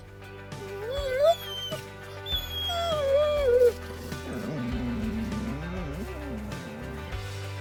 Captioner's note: Maple whining, screeching, baying